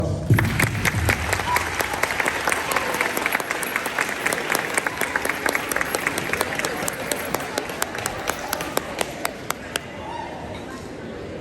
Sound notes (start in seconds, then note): 0.1 applause